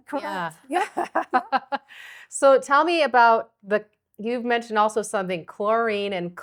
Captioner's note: laughing